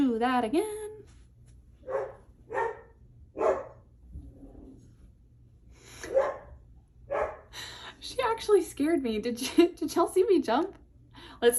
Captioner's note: dog barking